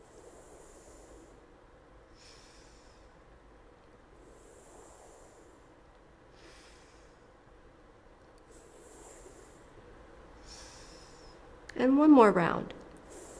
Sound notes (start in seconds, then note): 0.1 inhales; 2.2 exhales; 4.3 inhales; 6.4 exhales; 8.5 inhales; 10.4 exhales; 13.0 inhales